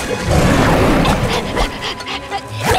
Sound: panting

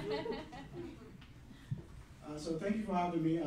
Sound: laughing

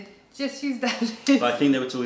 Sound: laughter

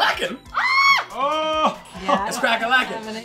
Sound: shouting

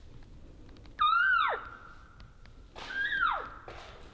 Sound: caller cow calling

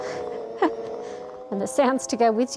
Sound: chuckles

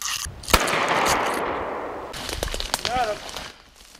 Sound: gun shooting

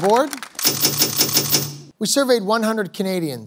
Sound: panels clicking

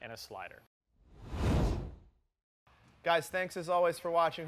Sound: logo whooshing

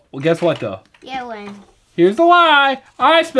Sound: voiceover; voiceover

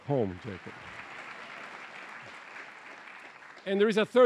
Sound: applause

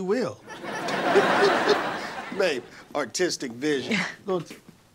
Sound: laughs

